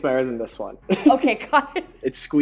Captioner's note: laughs